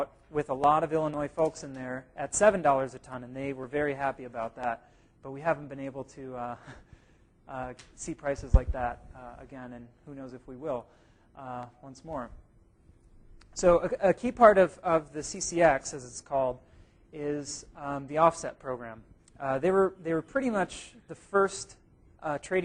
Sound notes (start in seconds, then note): 6.5 chuckle